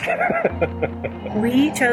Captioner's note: both laughing